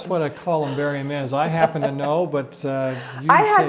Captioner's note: laughs